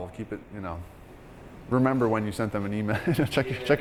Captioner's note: laughing